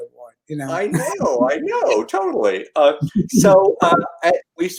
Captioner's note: Aasif guffaws